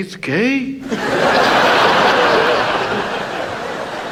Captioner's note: audience laughs